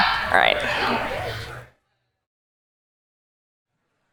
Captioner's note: audience chatters